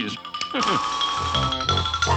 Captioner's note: chuckles